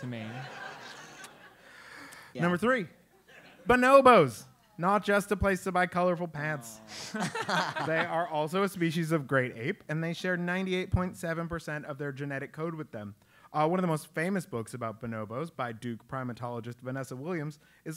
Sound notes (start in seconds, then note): 0.2 laugh; 6.9 laugh